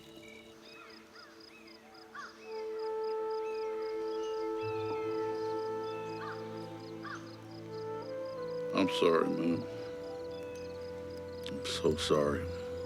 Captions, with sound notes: (birds chirping) (gentle instrumental music) - I'm sorry, Moon. I'm so sorry.